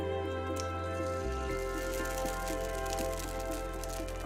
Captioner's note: egg sizzling